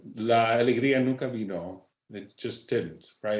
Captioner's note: speaking Spanish